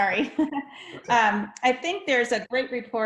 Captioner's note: laughing